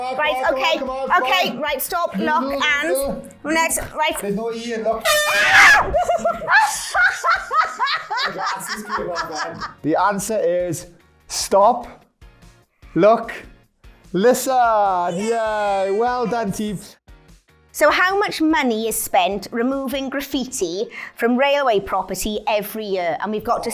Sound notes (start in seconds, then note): 5.0 horn; 5.0 screams; 5.1 laughing